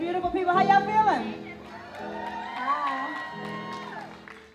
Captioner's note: applause